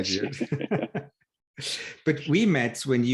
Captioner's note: laughing